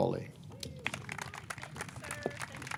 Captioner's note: audience clapping